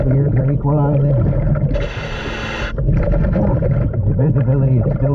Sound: water bubbling; mouthpiece hissing

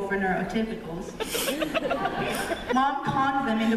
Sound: laughter

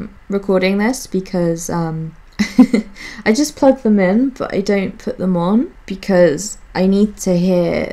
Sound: laughs

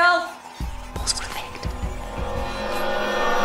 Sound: whispers

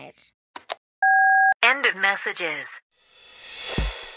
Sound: soundbite of beep

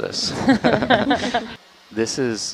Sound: all laughing

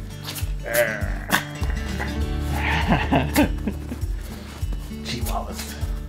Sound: laughs

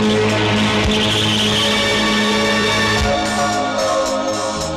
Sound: tires Screeching

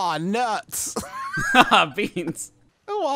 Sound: laughing

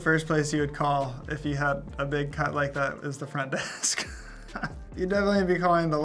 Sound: laughs

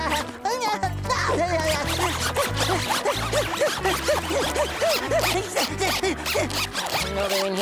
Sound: chuckles; zipping, panting

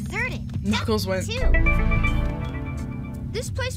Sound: pulsing sound

